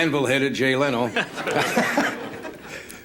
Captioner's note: laugh